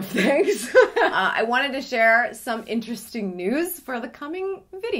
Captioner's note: laughing